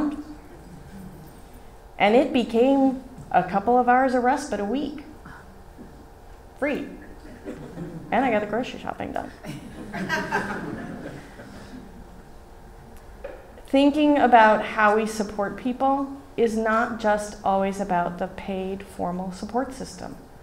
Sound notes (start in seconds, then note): 9.4 laughs from Audience